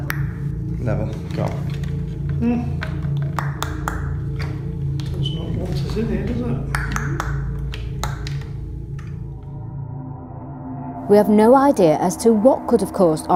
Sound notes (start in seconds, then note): 7.0 clicking; 10.3 ominous music